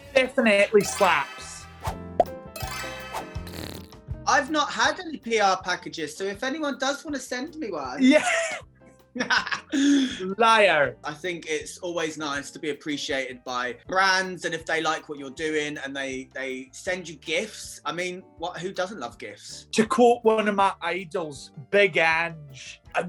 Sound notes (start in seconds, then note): 1.9 laid back music; 8.2 laughing